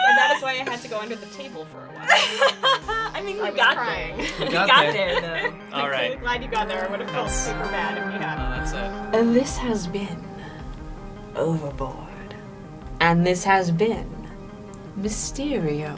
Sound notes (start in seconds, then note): 5.0 pat